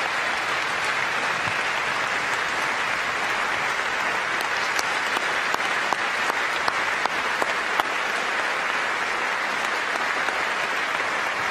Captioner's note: applause